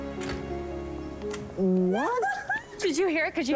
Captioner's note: exclaiming